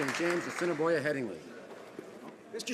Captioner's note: some Applause